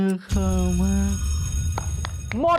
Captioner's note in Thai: เสียงกริ่งนาฬิกา